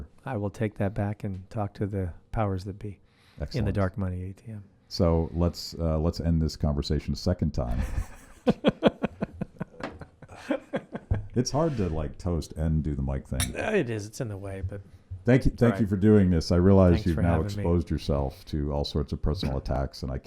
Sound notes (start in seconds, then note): 7.7 laughing; 13.4 glasses clinking